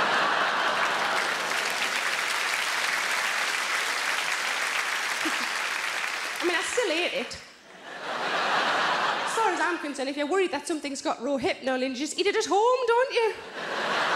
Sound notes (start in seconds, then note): 0.0 audience applauds; 7.7 audience laughs; 13.4 audience laughs